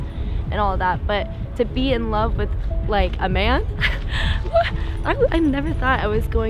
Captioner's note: laughs